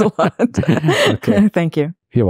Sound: laughing

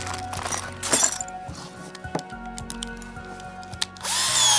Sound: bits clanking; drill buzzing

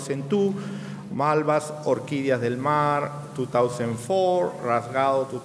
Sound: speaking in a foreign language

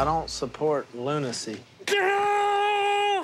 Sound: imitating guitar

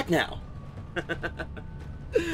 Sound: laughs

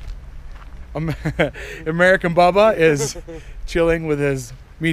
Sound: chuckles

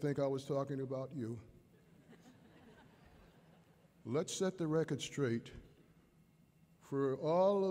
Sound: laughter

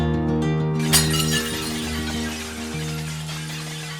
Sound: falling Plates crashing

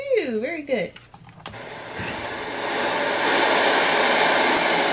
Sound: white noise

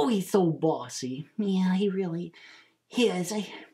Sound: sighs

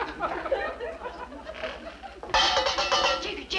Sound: audience laughs; cup clinks

